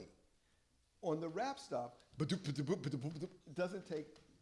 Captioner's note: beatboxing